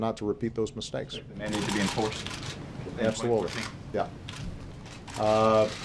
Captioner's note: off mic